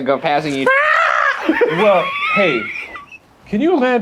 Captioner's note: screaming